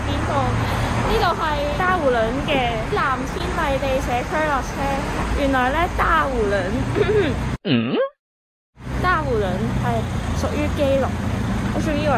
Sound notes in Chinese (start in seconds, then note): 7.6 有痰